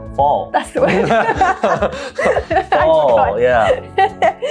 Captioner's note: both laughing